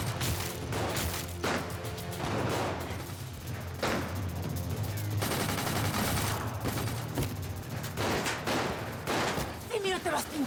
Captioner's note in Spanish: tiroteo